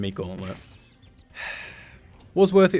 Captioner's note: sigh